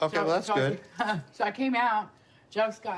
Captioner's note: laughs